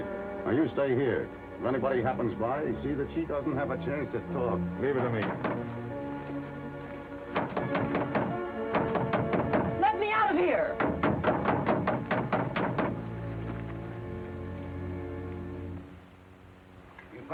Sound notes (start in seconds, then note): 7.2 Mary pounding on door; 9.0 dramatic music; 10.7 banging on door; 13.5 dramatic music